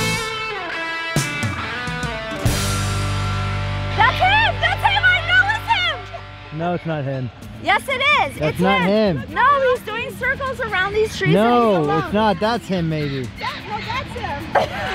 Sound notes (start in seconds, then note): 4.1 screaming; 13.2 birds squawking